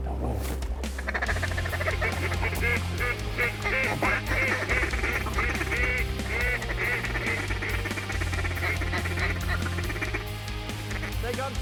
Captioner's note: duck calls